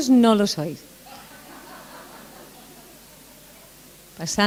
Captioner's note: laughter